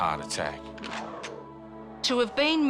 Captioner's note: gun cocks